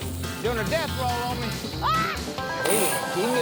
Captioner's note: screams